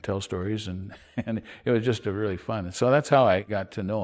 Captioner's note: chuckles